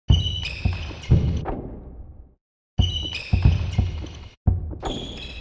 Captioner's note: shoes squeaking